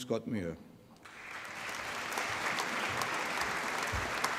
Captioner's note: applause